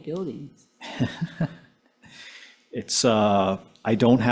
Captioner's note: chuckling